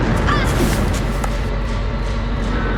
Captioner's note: Miranda cries out, wooshing sound